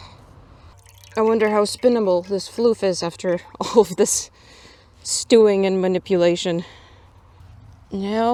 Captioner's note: laughs